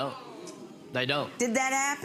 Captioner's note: audience groaning